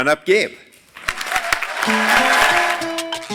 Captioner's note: applause